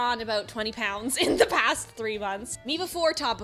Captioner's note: laughs